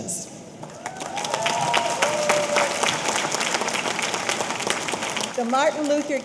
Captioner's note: audience applauding; audience cheering